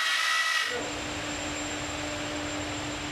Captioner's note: machine humming